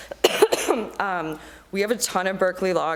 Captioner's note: coughing